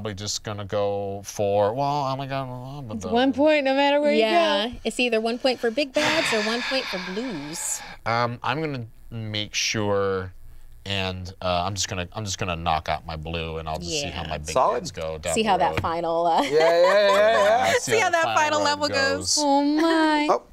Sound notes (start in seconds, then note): 16.4 laughs